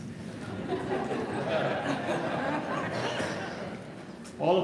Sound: audience laughing

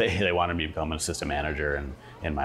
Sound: laughing

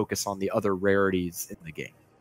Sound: none

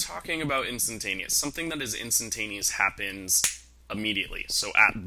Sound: snap

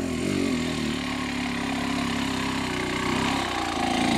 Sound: 2T low-rev grunt

